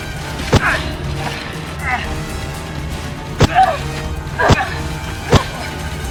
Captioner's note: fighters grunting; weapons thudding